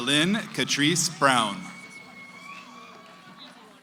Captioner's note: cheering